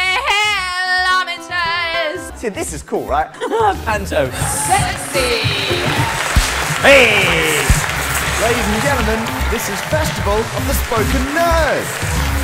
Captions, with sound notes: This is cool right Panto Sexy Hey Ladies and gentlemen, this is Festival of the Spoken Nerd. [Applause] [Electronic music]